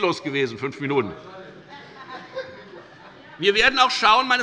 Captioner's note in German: Heiterkeit